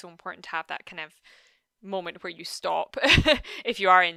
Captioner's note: chuckles